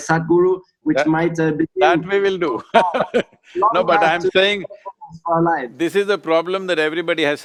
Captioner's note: laughs